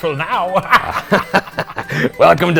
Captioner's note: laughing